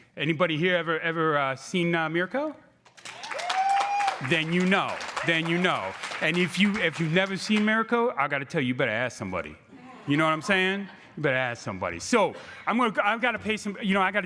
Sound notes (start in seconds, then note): 3.0 crowd cheering